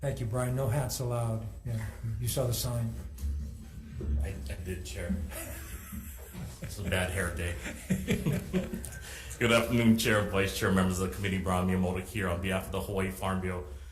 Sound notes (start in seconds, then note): 5.2 laughs softly; 7.4 chuckle softly